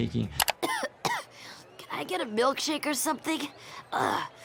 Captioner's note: coughs